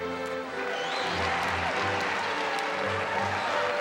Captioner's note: cheering and applause